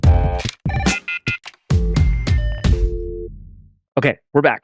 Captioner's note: upbeat music; phone rings